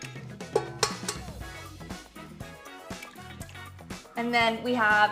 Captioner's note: egg clinking